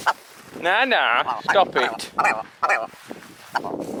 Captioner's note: clucking